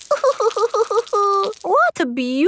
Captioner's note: crying